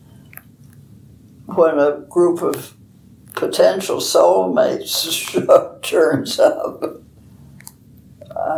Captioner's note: laughs